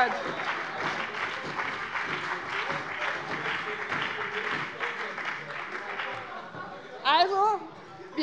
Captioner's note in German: Beifall bei dem BÜNDNIS 90/DIE GRÜNEN und der CDU